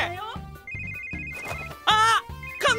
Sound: phone starts ringing

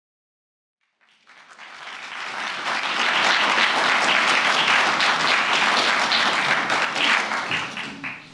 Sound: applause

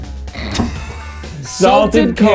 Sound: laughing

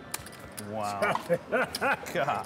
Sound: laughing

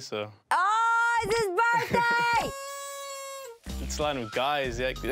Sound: laughs

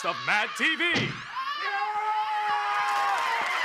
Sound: still screaming

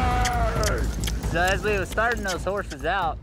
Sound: kissing sound

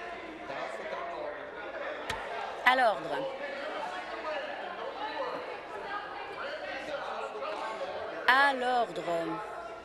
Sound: continued interjections

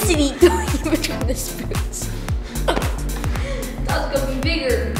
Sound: laughs

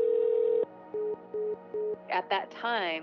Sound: phone beeps; phone rings

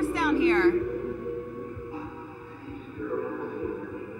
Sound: muffled voice

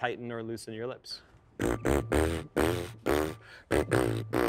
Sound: deep vibrating

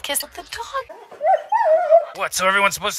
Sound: whimpers

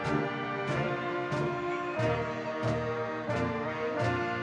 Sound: audience cheering

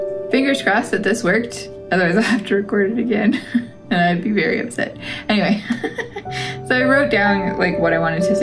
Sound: laugh

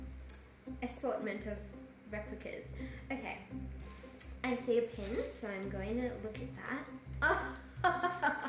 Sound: laughs

